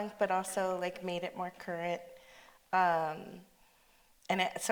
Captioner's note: none